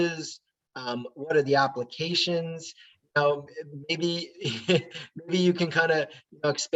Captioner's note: laughing